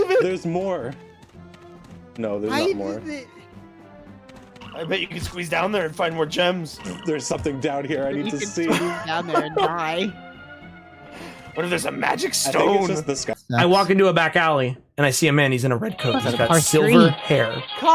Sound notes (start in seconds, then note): 3.5 tired